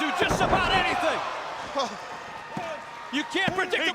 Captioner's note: crowd cheering